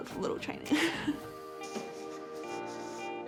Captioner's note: chuckles